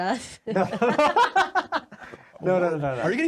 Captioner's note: laughing